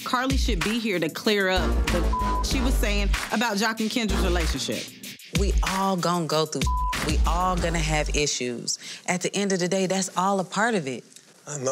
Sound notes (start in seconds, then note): 1.9 beep; 6.6 beep